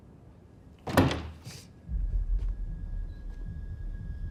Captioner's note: door clacks